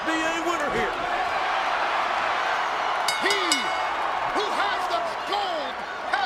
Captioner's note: applause